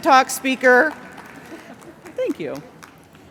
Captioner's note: applause